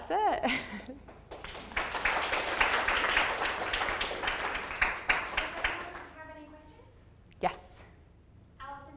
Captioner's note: audience applause